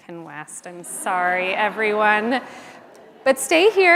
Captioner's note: audience laughs